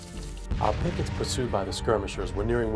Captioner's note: voiceover